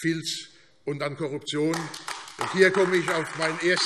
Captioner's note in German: Beifall AfD